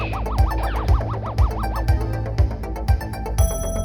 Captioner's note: alert chime